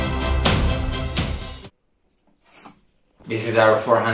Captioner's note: pen sound